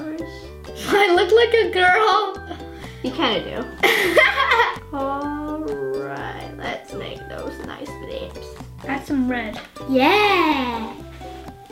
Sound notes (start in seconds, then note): 3.9 laughs